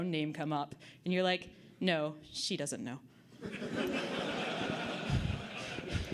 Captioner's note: audience Laughter